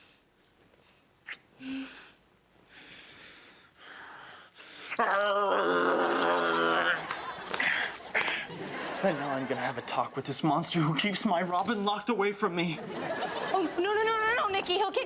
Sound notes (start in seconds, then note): 5.0 Nikki growling